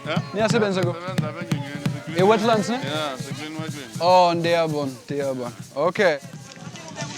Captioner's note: speaking in Swahili